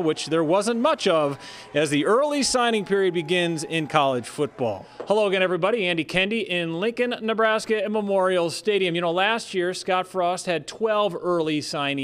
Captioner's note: applause